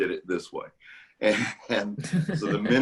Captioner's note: laughter